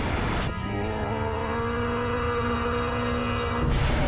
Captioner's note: screaming